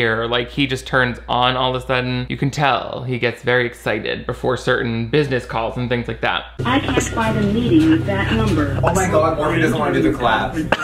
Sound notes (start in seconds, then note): 6.8 robotic Voice